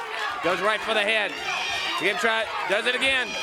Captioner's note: crowd chatter